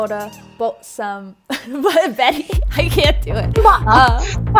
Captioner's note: fake Australian accent; fake British accent